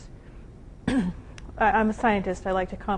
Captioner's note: clears throat